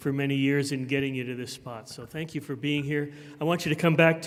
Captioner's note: none